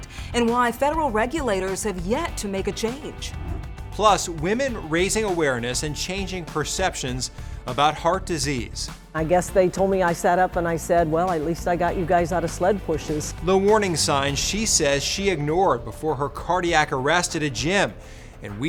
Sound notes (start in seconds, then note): 3.7 graphics whooshing